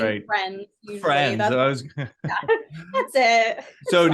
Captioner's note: laughs